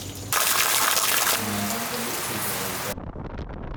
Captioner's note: rain